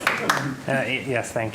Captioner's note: applause